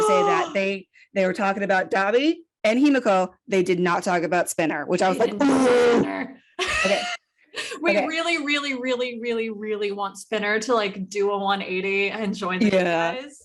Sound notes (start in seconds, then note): 0.9 gasp; 5.2 mic blowout